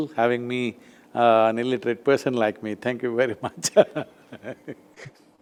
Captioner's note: laughs